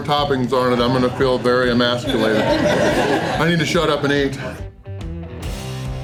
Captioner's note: crowd laughter